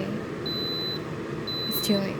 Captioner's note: Instantpot BEEPS